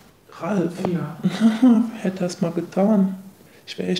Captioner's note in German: lacht